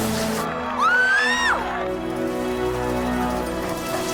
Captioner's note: Tracy squeals